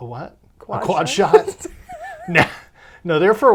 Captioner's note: laughs